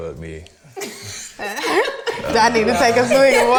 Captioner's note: all laughing